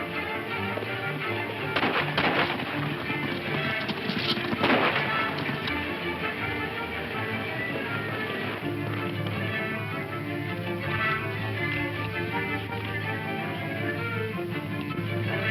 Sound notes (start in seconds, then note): 1.7 guns firing; 3.0 upbeat dramatic music